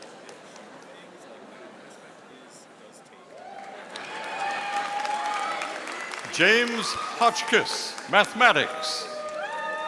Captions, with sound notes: (audience cheering) James Hodgkiss, Mathematics.